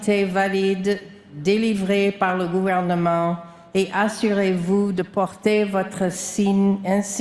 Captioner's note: speaking french